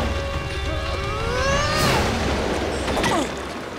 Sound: grunting

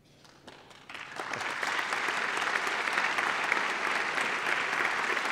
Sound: applause

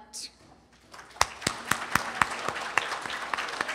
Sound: applause

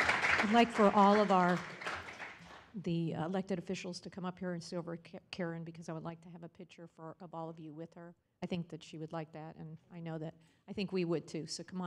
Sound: applause

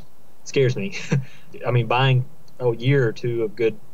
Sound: laughter

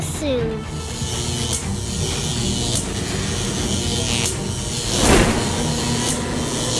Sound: laser electric buzzing and whooshing

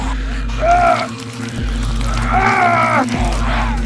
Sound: moaning in pain

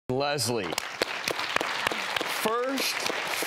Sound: audience applause

